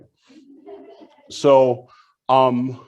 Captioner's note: audience laughs